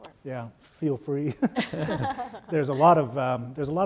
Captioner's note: panelists laugh